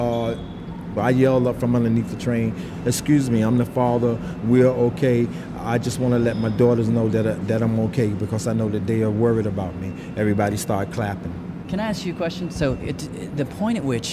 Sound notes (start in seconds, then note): none